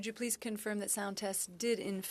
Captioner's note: speaking French